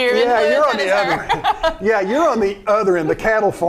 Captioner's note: laughing